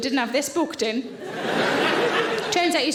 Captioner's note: audience laughing